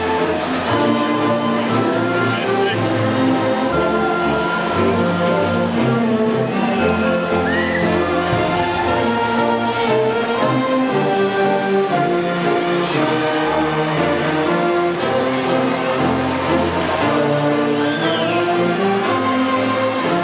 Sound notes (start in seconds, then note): 6.7 audience whistling and cheering; 16.5 band music drowns out men